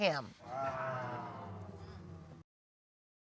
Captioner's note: audience exclaiming